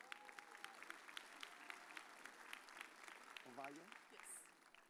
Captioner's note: audience cheers